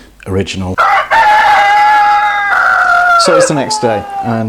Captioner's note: cock crowing